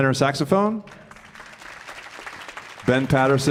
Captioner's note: audience applauding